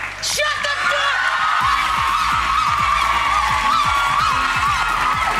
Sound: audience cheers

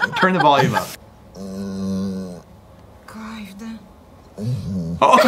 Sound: dog groaning

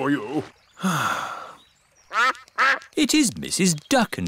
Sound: sighs; quacking

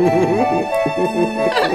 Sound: giggling

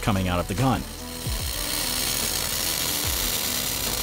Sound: sizzling

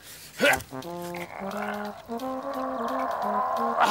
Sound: grunting

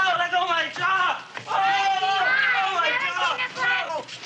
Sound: chattering

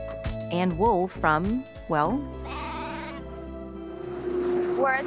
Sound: sheep bleating; gentle music

